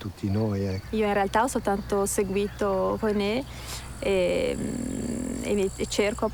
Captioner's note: speaks in foreign language